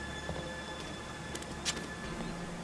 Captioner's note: knife being sheathed